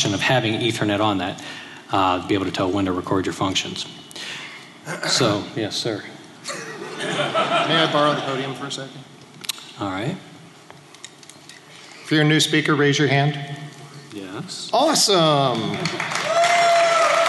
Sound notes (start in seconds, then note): 6.4 laughter; 15.7 cheers and applause